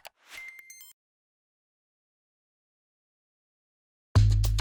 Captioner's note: digital beeping